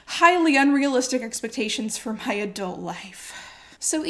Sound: sighs

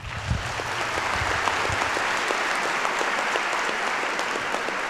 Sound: audience applauds

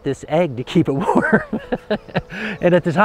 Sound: laughs

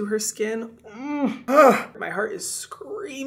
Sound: Hyram groaning

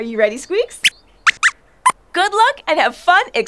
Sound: squeaks squeaks

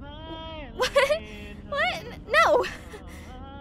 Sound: laughs

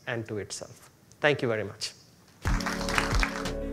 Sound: audience clapping; upbeat music

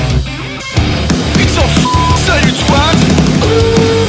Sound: beep

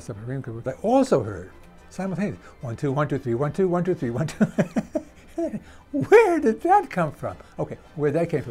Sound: laughs

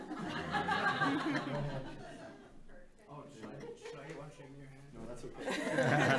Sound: group laughing

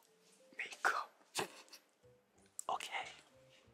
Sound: laughs

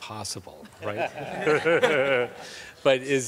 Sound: everyone guffaws

